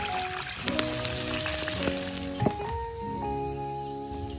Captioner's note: sizzling